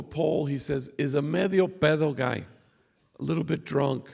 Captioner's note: non english speech